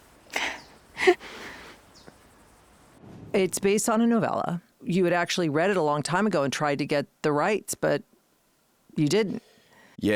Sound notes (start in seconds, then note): 1.0 Gladys chuckles